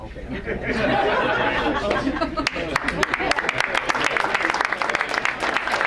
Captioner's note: crowd laugh and applaud